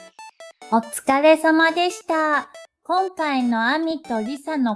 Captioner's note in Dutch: in het Japans